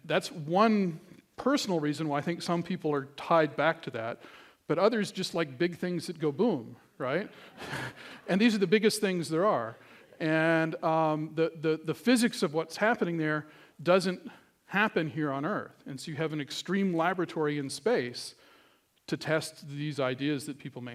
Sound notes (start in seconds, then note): 7.3 laughter